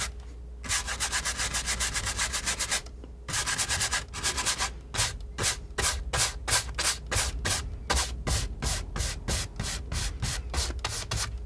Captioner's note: scratching